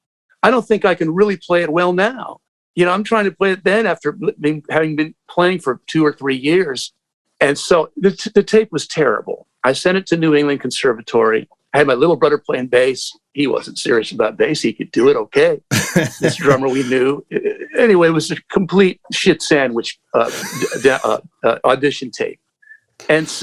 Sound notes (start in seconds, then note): 15.7 laughter